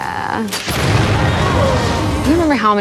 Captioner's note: laughs; gun firing; Vecna yells